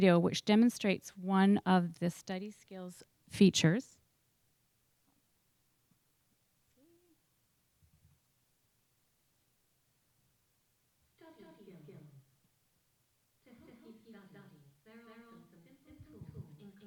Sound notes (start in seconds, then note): 11.2 voiceover